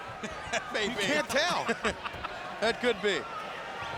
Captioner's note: chuckles